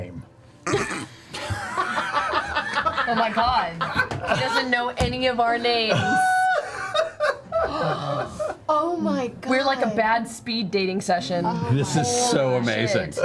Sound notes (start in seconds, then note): 1.4 all laugh